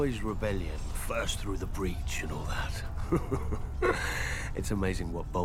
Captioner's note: chuckles